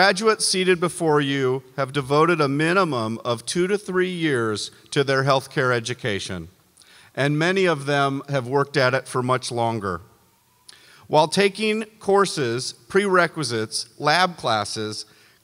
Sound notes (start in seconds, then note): none